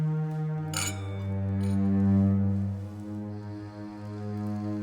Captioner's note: ominous music; clinking